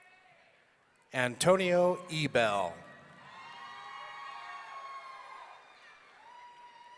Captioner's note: audience cheering